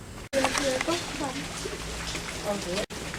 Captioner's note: people Talking